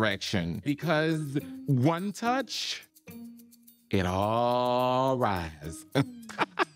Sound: laughs

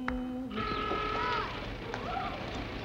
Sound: honking

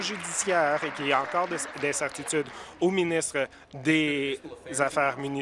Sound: applause

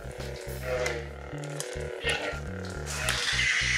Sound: lightsaber ignites; lightsaber whooshing; lighsaber clashing

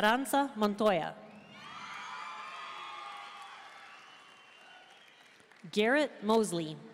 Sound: audience cheering and applauding

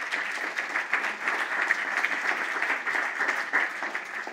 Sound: applause

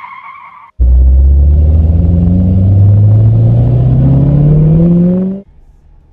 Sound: tires skirt; car revs

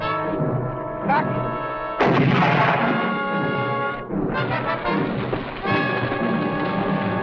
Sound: explosion booming

